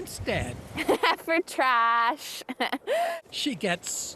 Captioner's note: chuckles